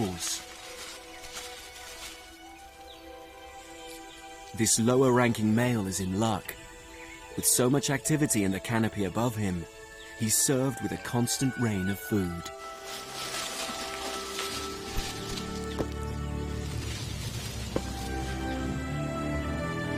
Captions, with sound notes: This lower ranking male is in luck. With so much activity and a canopy above him, he's served with a constant rain of food. (leaves rustling) (light music continues)